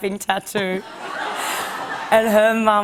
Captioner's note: laughter